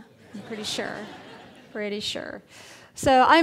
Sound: audience laughing

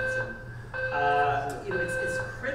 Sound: alarm beeping loudly

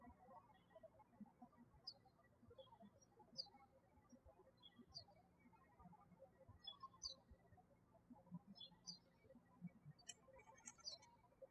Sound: birds chirping

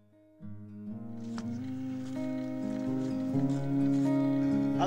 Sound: humming

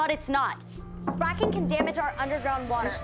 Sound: knocks

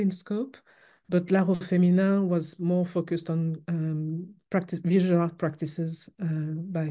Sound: french

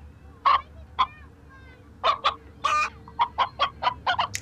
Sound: clucking

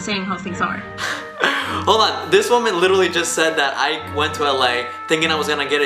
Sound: laughs

